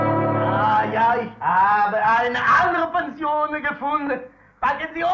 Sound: German language

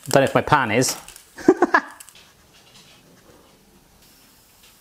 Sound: laughs

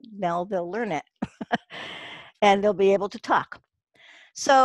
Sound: laughs

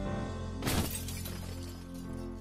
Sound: crashing Furniture

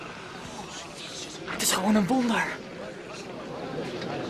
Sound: whisper

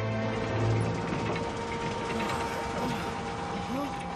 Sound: machinery whirring

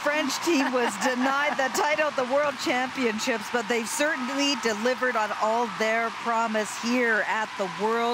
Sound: cheers and applause

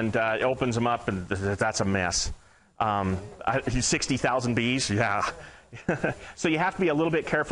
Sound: laughing

